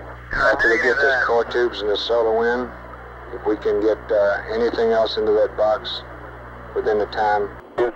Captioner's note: mission Control Audio; mission Control Audio